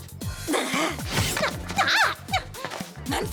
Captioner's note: crashing